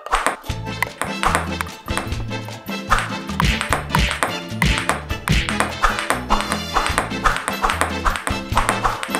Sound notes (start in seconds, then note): 0.0 lively mariachi music; 0.7 ball clicks; 2.9 punches thud; 6.2 ball clicks